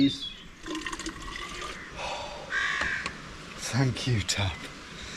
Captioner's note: water trickling; exhales